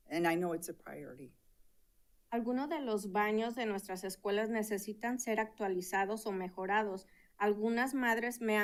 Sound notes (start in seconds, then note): 2.4 speaking in Spanish